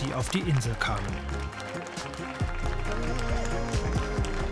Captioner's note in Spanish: Aplausos